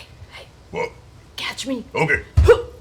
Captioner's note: whispering